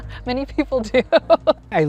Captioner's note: laughs; laughing